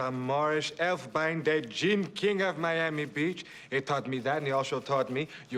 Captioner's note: yiddish Accent